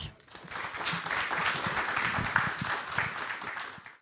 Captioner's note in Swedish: Applåder